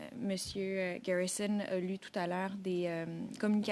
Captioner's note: speaking French